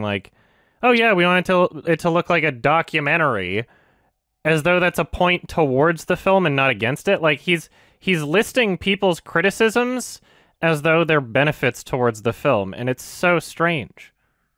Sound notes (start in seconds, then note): none